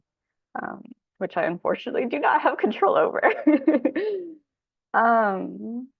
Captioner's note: laughs